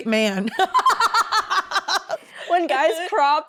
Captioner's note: Becca and Zoey laughing